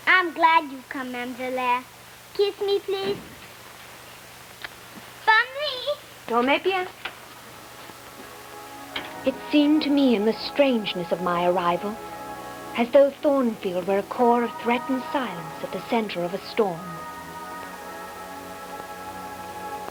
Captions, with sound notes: I'm glad you come, ma'am Jane Eyre. Kiss me, please. [SPEAKING FRENCH] It seemed to me in the strangeness of my arrival, as though Thornfield were a core of threatened silence at the center of a storm.